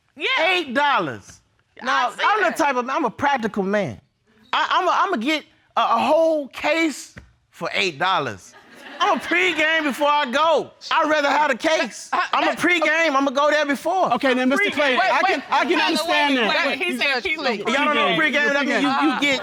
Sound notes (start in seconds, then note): 8.5 audience laughing